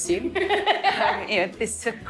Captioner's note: laughs